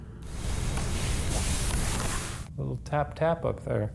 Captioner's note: rustling